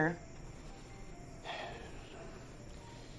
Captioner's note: sighs